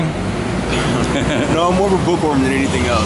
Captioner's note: both chuckle